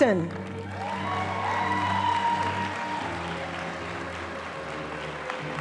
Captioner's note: audience applauding